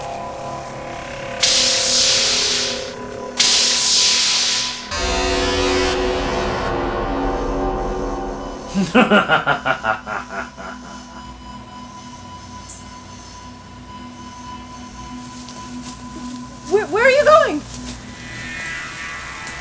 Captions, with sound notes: (Weird Sci-fi/electricity noises continue) (Evil laugh) Where are you going?